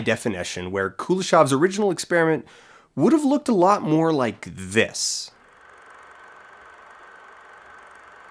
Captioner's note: SFX old film reel rolling throughout